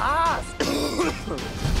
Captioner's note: coughs